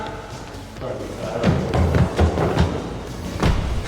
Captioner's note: footsteps thudding